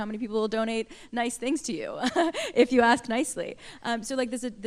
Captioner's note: laughter